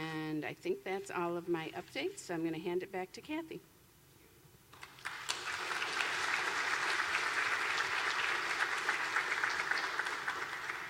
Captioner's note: applause